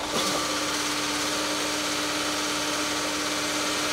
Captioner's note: engine revving